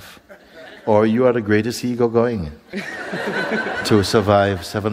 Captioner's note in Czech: smích